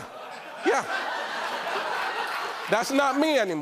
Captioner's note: laughter